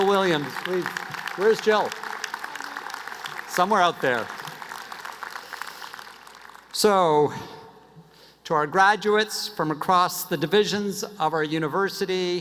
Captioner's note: applause